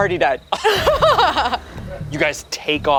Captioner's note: group laughs